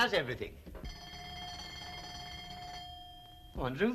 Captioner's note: doorbell